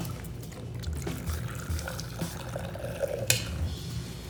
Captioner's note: drink pouring